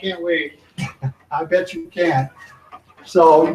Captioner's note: chuckles